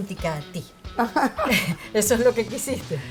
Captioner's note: laugh